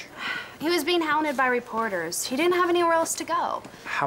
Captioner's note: sighs